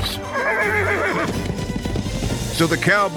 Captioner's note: horse whinnies